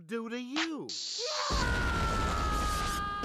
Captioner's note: yelling